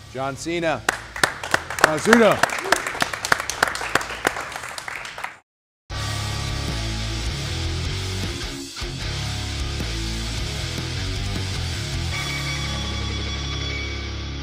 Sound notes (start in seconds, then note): 0.8 audience applauding; 0.8 clapping; 3.1 audience applauding